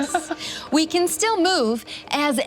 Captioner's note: laughs